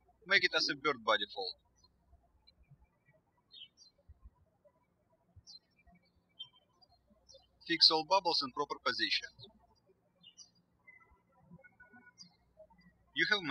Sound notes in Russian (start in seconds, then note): 2.7 птички щебечут